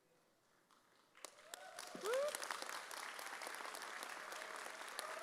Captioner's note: audience applauds